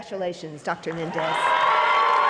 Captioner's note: applause